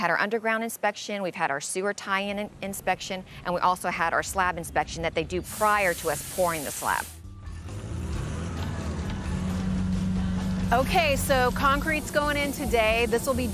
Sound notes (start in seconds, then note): 7.2 engine roars